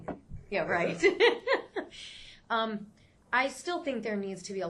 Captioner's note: laughs